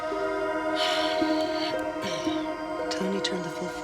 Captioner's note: Nora sighs